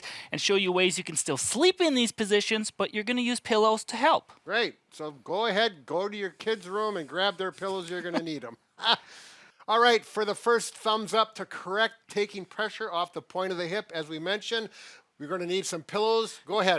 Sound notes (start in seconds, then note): 7.8 laughing